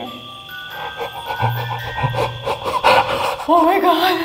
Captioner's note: music box chiming; gasping repeatedly